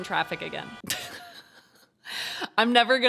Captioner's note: chuckles